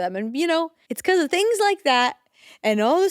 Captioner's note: none